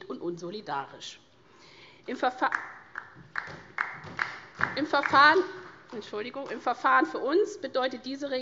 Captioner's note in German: Vereinzelter Beifall SPD und DIE LINKE